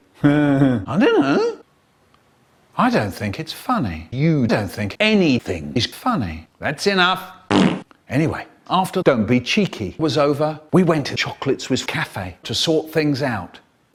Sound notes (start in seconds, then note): 7.5 fart